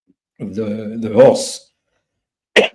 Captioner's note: cough